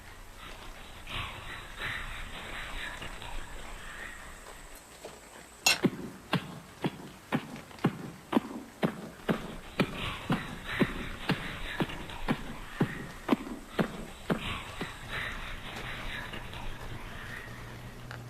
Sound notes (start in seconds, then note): 6.0 loud thumping; 14.8 mysterious whispering